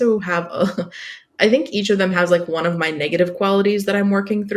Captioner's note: laughs